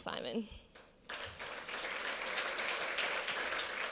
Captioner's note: applause